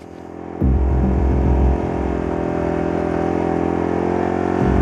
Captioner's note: bike engine noise; music builds